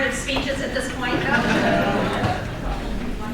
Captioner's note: crowd